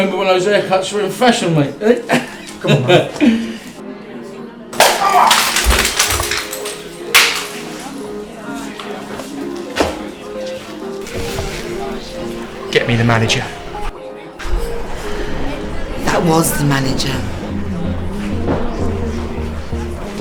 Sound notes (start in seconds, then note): 5.1 groans